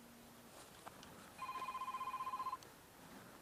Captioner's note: phone ringing